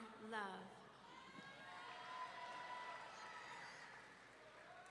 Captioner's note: audience cheering